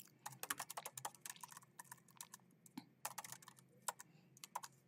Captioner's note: keyboard clacking continues